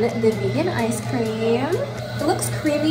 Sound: ice cream maker churns

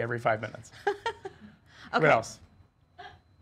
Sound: laughing

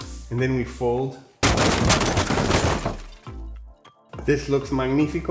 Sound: construction sounds

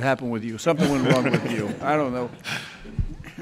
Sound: crowd laughs

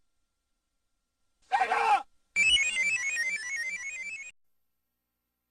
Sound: screaming; descending 16-bit video game sounds; silence

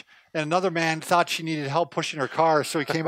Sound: laughs

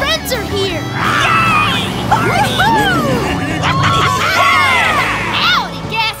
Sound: cheering

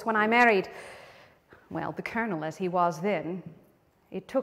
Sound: inhales sharply

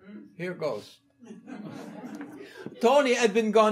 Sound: audience laughing

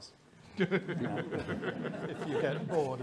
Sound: all laughing

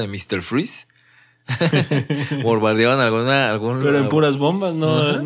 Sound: laughs

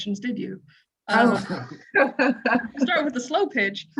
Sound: laughter

